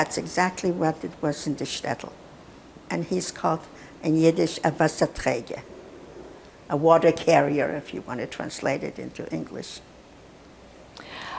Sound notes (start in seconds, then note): 4.9 yiddish